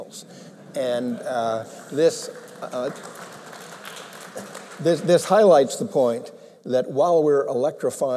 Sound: laughter

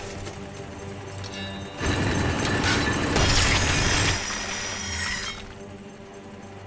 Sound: churning

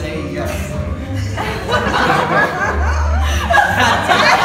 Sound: laughs

